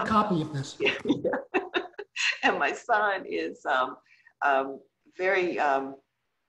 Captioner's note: laughs